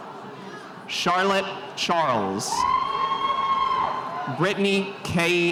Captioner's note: spectators cheering